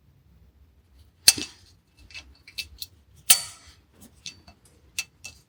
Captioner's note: tools clinking